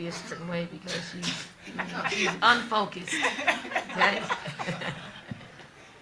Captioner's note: everyone laughing